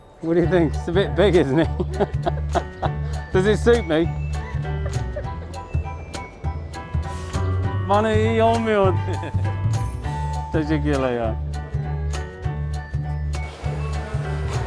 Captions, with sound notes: What do you think? It's a bit big. Isn't it? (laughs) Does it suit me?